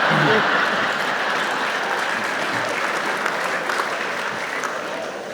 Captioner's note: audience laughs, applauds